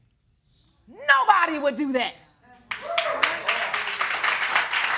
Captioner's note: audience cheering